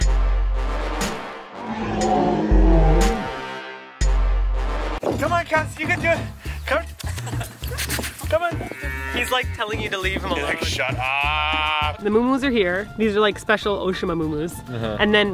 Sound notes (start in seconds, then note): 0.0 intense bass music, roaring; 7.6 kissing noises; 8.7 cow moos